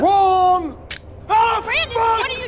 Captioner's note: clicking